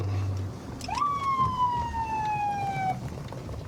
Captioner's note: sirens blaring